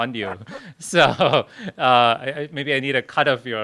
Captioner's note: laughter